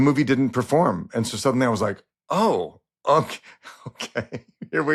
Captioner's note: laughs